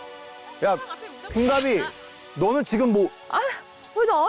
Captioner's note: target switch sound effect